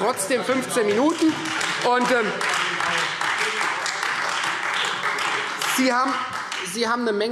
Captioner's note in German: Beifall